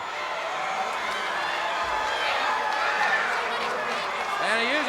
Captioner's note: crowd cheering